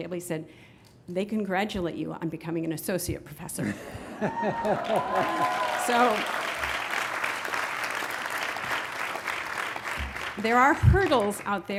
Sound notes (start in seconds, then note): 4.1 graduates cheering; 4.2 graduates clapping